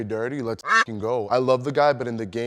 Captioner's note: quack